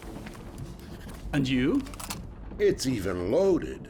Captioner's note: clicks gun